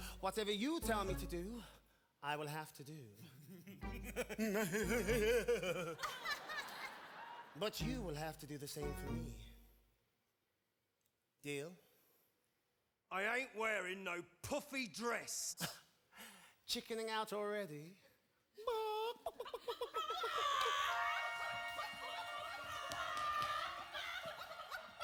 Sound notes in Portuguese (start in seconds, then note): 3.6 Don laughs; 3.6 Lola imitates Don laughing; 6.1 women laughing; 15.9 laughs; 18.7 Lola imitating chicken clucking; 20.0 women imitating chicken clucking